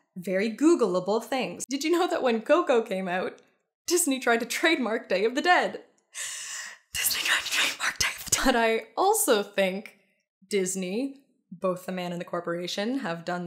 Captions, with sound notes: very googleable things. Did you know that when Coco came out Disney tried to trademark Day of the Dead? (deep breath) (very high pitched) Disney tried to TRADEMARK Day of the Dead. But I also think Disney, both the man and the corporation, have done